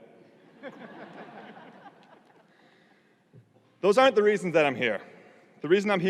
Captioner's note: audience laughing